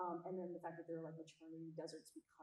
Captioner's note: none